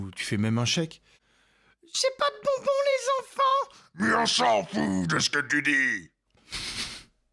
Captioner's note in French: rires